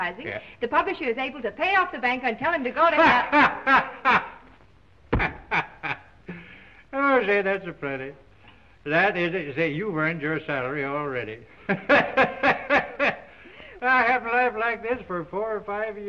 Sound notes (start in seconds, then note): 2.8 laughing loudly; 5.0 stomps foot; 11.7 laughing loudly